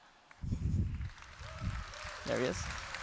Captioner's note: applause